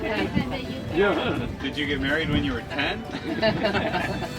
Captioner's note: laughs